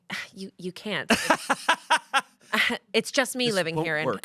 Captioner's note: Shayne laughs